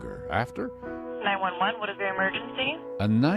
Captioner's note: 911 recording